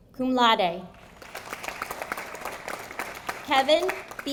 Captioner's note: audience applauding